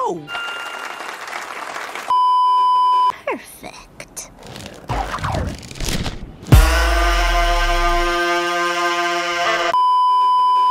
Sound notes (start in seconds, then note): 0.2 applause; 2.2 beeeeeep; 6.5 intense horn; 9.7 beeeeeep